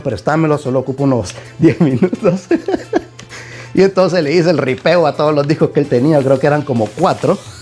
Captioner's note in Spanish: risas